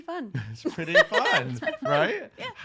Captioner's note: laughing